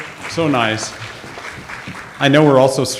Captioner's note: audience applauds